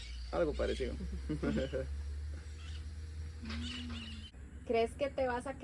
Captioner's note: laughter